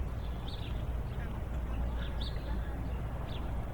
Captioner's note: birds chirp